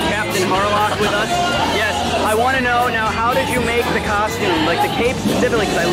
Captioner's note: laughter